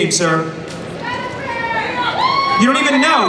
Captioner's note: crowd yelling